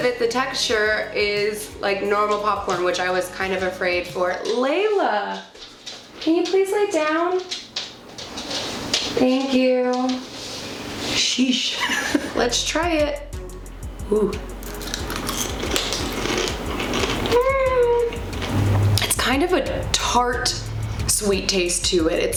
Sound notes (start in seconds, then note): 14.6 crunching; 17.2 noise of uncertainty